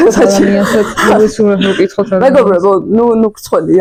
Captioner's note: nervous Giggle